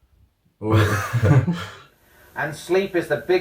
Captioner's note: laughing